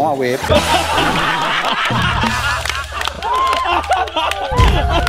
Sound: laughs; applauding

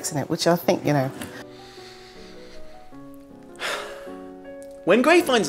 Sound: angry inhale and sigh

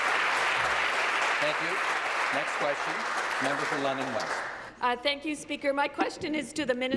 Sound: applause

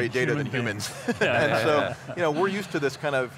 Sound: laughter

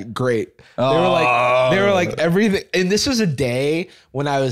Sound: groans

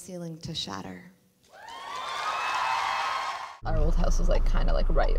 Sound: cheering and applause

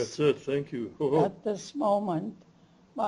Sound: non-english speech

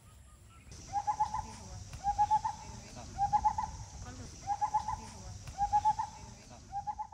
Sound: bird chirping

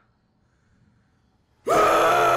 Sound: screaming

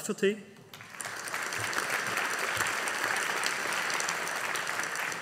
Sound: audience applauding

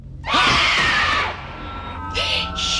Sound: bloodcurdling scream

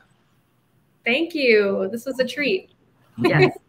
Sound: laughing

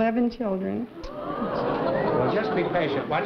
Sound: crowd gasping

